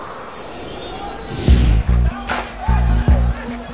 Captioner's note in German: Kommandorufe